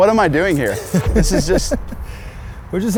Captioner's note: laughs